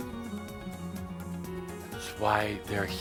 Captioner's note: none